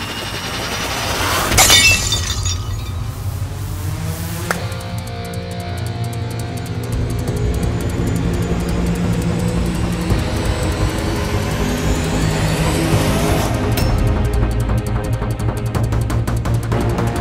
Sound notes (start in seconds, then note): 0.1 glass shattering; 4.4 clap